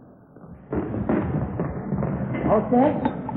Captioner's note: footsteps